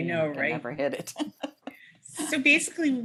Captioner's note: laughter